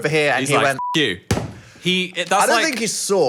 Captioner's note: beep